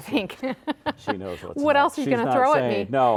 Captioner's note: laughs